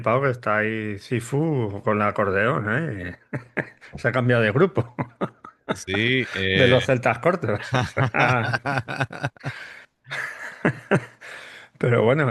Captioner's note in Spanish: risas